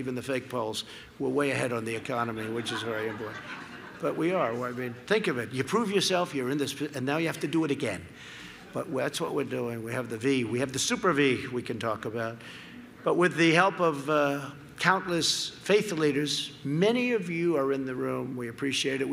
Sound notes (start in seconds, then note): 1.9 laughter